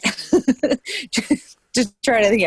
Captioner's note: laughing